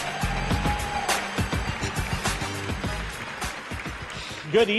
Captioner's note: energetic music; audience applauds